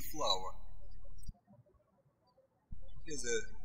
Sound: birds chirping

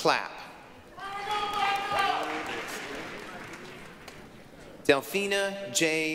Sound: applause, cheering

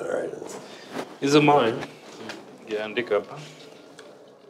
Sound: speaks Swahili

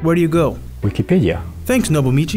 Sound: voiceover

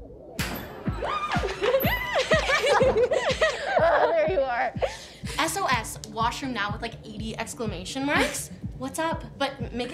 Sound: giggling

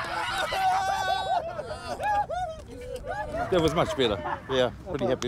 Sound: cheering

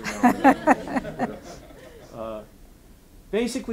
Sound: audience laughing

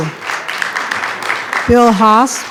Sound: attendees clapping

